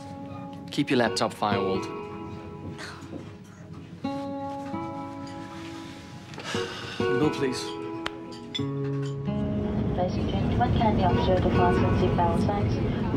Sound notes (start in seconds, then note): 6.3 sighs